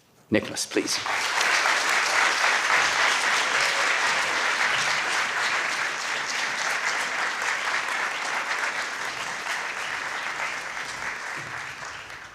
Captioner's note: applause